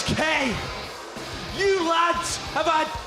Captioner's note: crowd cheering